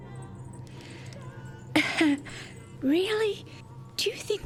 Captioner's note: disapproving Cough